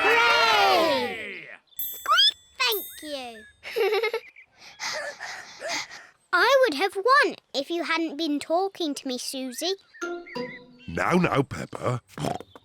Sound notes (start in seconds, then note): 1.9 squeaks; 3.6 laughs; 4.5 both pant; 12.0 snorts